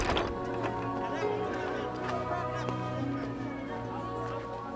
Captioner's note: somber music; people chattering